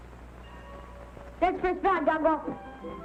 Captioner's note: bell ringing